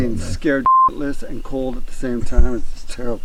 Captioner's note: beep